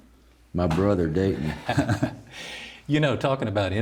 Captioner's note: chuckles